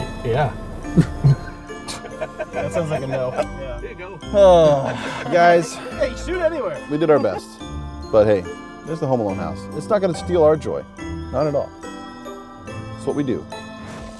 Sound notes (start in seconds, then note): 4.6 gasping; 14.0 gentle music